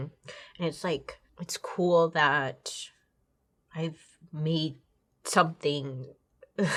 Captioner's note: chuckles